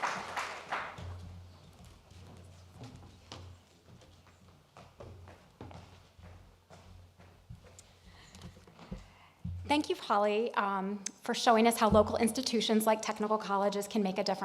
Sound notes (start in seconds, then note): 0.0 applause